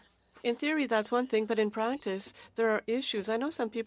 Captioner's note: speaking French